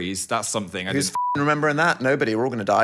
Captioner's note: beep